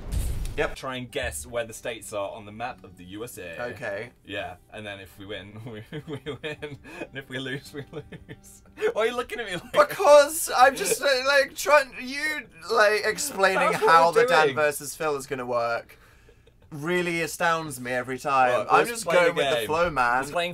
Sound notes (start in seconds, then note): 5.6 Phil starts laughing again; 8.0 Phil starts laughing more